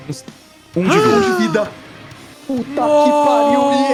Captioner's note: gasps